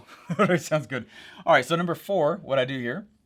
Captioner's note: chuckles